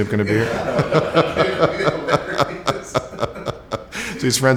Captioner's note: laughter